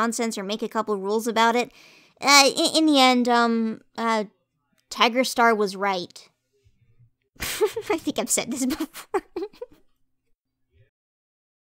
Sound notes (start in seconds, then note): 8.6 laughing